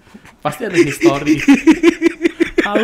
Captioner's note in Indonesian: ketawa